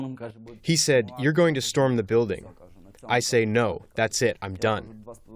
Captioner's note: through translator